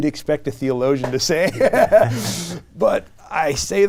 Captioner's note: all laugh